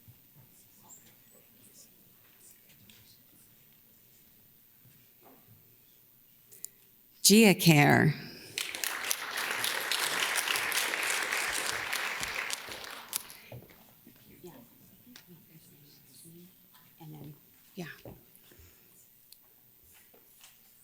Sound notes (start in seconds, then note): 8.4 audience claps; 17.1 whispers